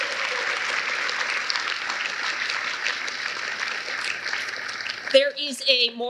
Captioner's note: applause